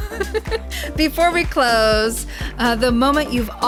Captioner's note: laughs